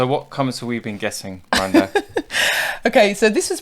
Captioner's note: laughs